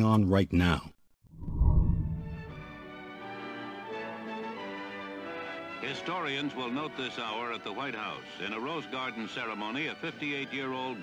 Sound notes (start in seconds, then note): 1.6 newsreel narration